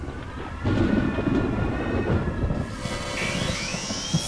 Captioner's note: thunder crashing; electricity crackling